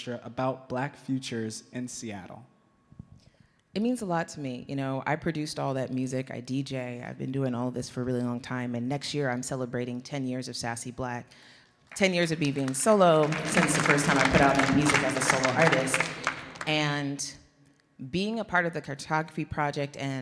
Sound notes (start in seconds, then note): 13.6 audience clapping